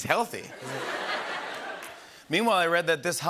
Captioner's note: laughter